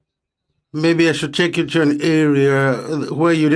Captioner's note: speaking French